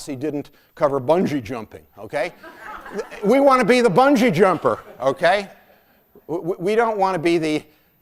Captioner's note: laughter